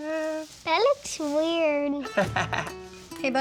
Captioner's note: laughs